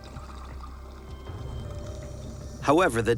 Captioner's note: breathing apparatus hissing